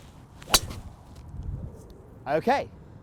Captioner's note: thwack sound